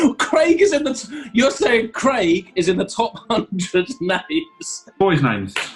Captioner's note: laughing